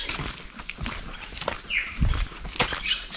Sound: footsteps and Loras squaking

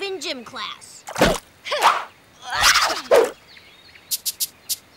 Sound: martial arts grunts

